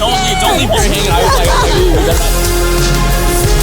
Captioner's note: all chattering faintly; dramatic upbeat music